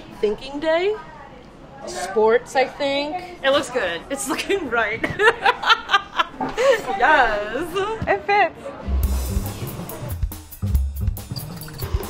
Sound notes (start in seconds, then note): 5.0 laughing